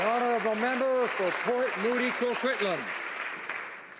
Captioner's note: applause